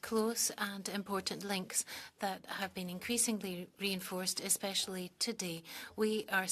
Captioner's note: speaking French